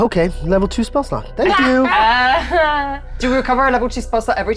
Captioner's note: laughing